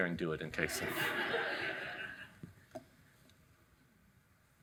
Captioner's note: audience laughing